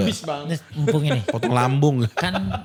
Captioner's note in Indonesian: tertawa